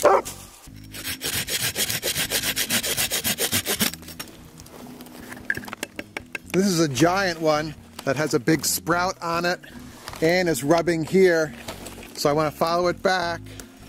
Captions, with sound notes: (saw scrapes against wood) This is a giant one that has a big sprout on it and it's rubbing here, so I wanna follow it back